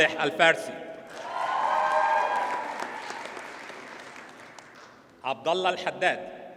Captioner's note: audience cheers and applauds